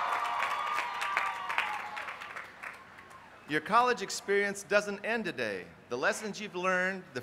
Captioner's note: applause